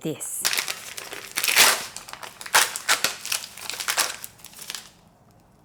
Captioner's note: package tearing